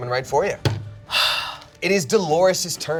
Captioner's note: hits table and sighs